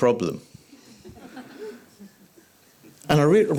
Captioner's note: audience chuckles